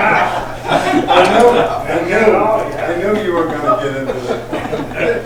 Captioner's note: laughter